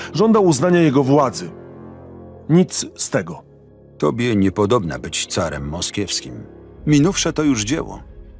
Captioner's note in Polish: Lektor